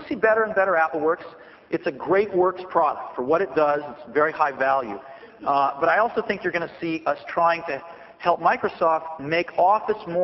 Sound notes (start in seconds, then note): none